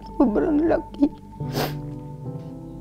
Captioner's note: sobs